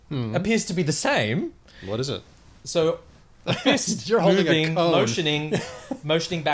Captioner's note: laughs